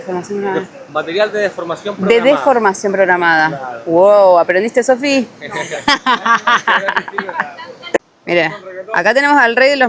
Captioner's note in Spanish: risas